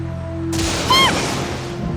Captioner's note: panicked cry